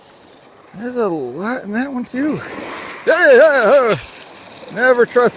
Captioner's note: manly screams